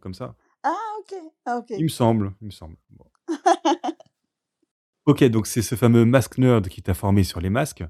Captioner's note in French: rires